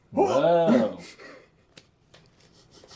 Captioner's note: all laugh